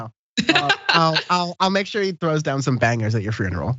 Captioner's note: laugh